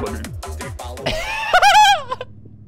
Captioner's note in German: Giraffenlache